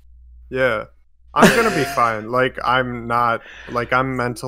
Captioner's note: laughs